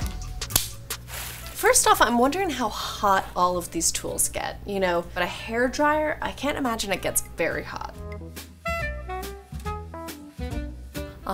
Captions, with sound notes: (curling iron snapping) (water splashes) First off, I'm wondering how hot all of these tools get? But a hair dryer, I can't imagine it gets very hot. (bright music)